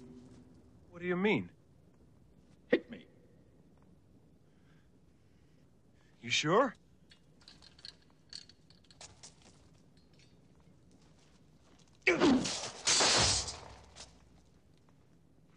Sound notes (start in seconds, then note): 12.0 grunting; 12.1 sword clanging